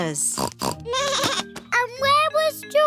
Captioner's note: snorts; bleats